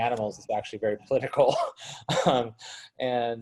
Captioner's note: laughs